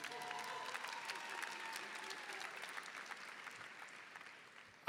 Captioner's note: applause and cheering